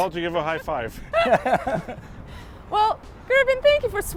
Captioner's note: all laugh